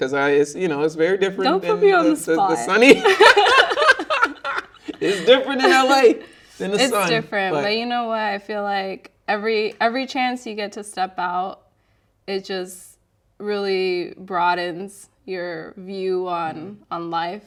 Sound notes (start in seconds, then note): 2.6 both laughing